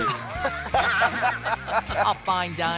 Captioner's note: both laughing